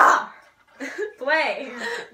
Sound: laughing; more laughing

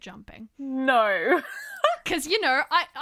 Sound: laughter

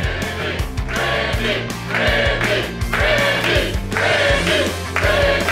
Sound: crowd

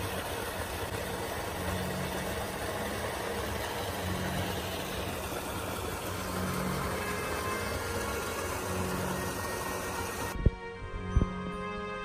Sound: waterfall sounds

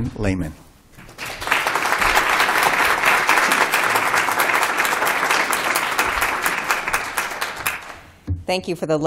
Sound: applause

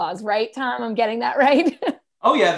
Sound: laughter

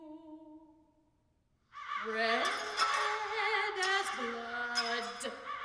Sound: crows, breaking glass

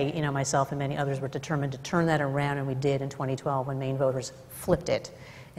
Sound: none

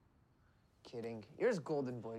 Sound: none

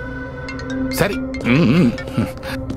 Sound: phone rings

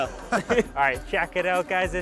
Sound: both laughing

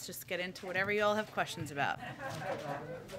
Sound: laughter

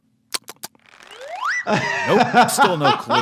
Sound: doctor gulps; lips smacking; laughs

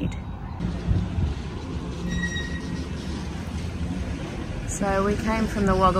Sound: background engine noises and brakes squeaking nearby

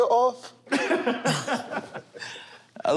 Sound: laughter

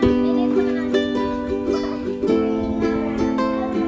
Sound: gentle music; kids talking and laughing

